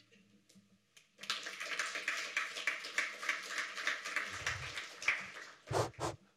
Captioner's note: applause